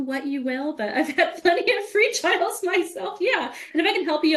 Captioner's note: laughing